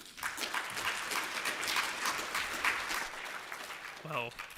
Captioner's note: applause